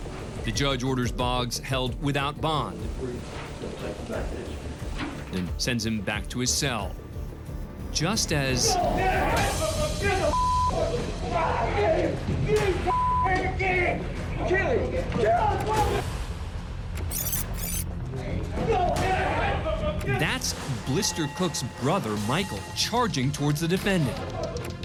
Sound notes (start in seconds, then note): 17.0 rewinding noise